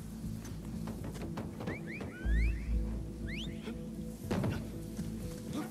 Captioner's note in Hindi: सीटी की आवाज़